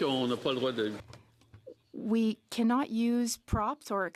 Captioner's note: some Applause